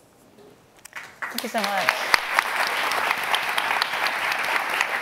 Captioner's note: audience applauding